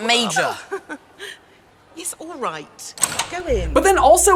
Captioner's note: laughs